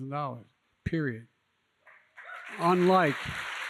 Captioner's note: applause